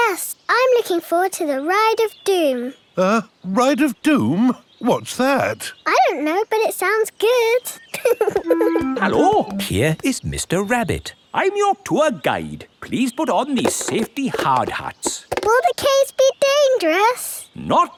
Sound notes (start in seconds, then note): 7.7 laughing